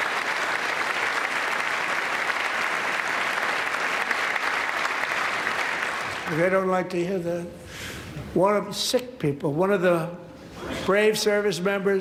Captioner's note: applause